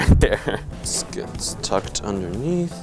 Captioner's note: laughing